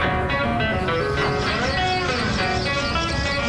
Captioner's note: car Engine Problems